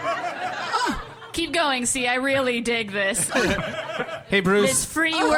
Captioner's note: audience and cast laughter